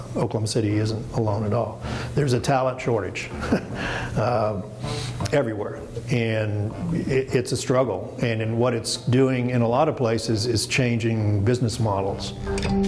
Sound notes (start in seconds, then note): 3.3 chuckling